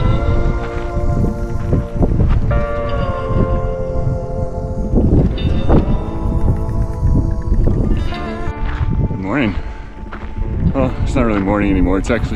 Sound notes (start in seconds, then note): 2.6 wind blowing